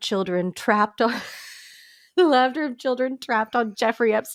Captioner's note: laughs